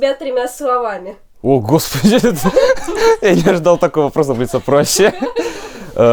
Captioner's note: laughter